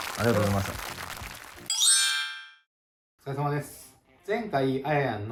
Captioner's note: applause